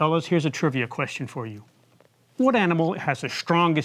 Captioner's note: none